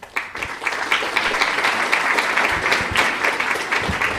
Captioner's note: applause